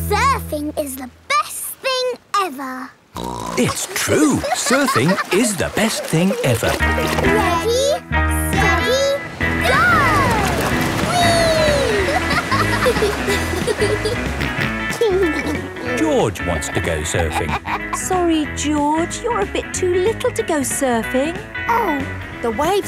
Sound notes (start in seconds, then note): 3.2 snorts; 11.0 laughing; 14.7 snorts and giggles